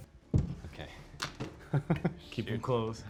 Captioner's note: laughs